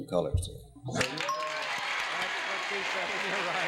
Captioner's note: applause